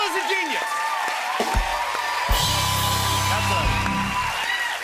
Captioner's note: cheers and applause